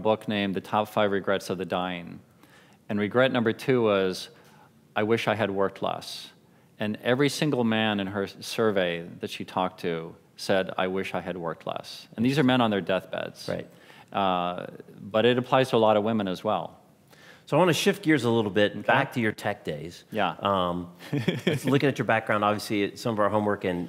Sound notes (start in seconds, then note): 21.0 laughing